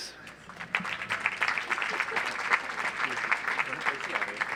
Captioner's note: audience applauds